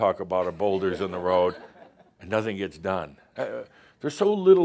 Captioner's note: laughter; more chuckles